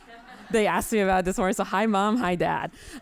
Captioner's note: audience laughing